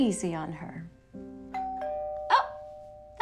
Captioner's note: doorbell